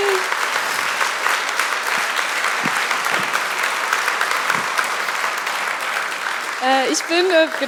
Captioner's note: Applaus